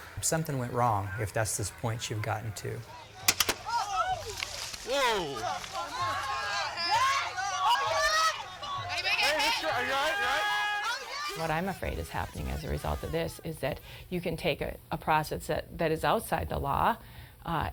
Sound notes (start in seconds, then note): 3.2 gun fires; 7.1 protestors chattering